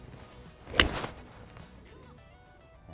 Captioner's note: club swooshing